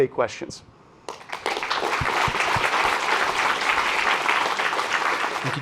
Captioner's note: audience applauds